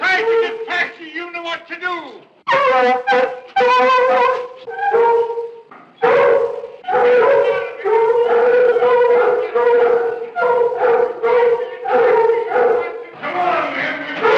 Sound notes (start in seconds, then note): 3.6 dogs barking